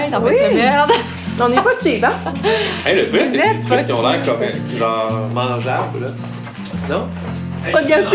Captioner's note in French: rires